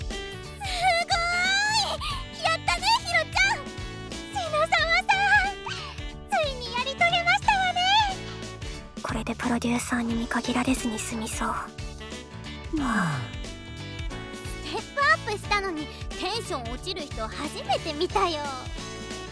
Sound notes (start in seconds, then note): 12.7 sigh